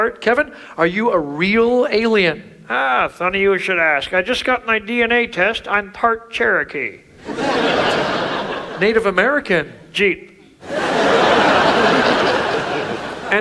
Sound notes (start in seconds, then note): 7.2 audience laughs; 10.6 audience laughs